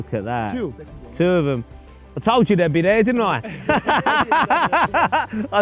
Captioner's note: laughs